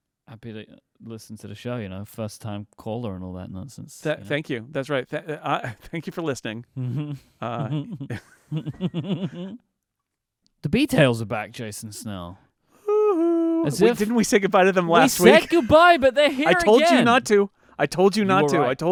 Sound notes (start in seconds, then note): 6.8 both laughing